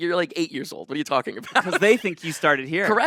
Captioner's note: laughs